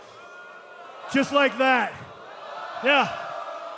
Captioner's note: crowd humming